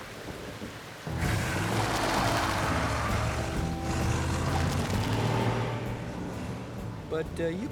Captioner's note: engine Revving